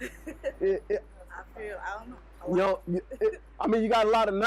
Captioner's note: laughs; chuckles